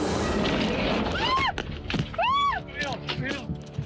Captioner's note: screaming